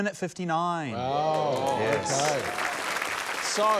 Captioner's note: applause